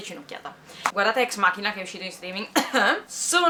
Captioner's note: cough